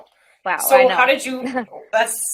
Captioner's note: chuckles